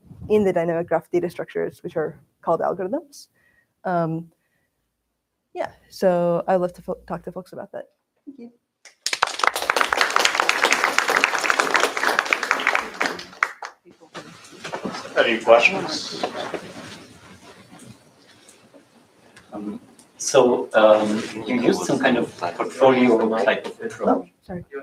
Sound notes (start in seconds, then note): 8.8 applause